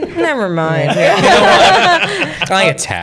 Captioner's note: laughter